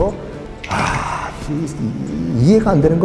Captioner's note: sigh